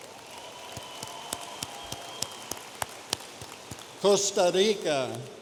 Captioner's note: audience applauding